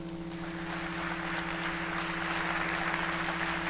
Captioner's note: applause